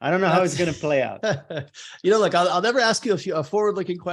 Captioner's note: chuckles